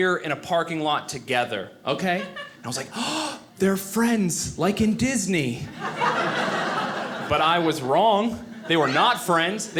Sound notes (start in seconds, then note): 5.6 audience laughing